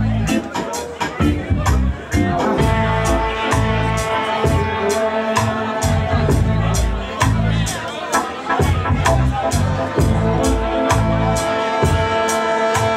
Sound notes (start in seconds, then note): 1.8 bassy trombone rumbles slowly; 4.7 hums; 8.6 bassy trombone rumbles slowly; 12.7 lively banter